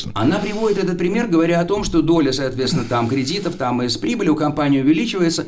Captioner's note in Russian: откашливается